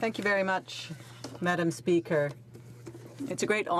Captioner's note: speaking French